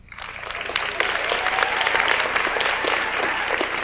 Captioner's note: audience applauds